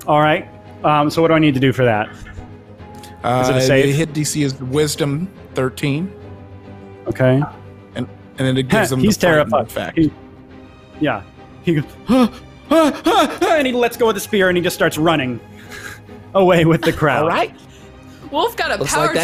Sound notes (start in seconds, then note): 11.8 yelling